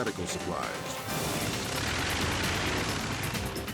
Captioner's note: engine snorts